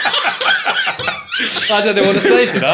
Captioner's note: laughing